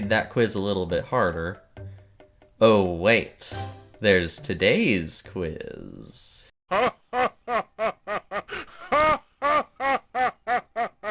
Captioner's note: Ganondorf Laughing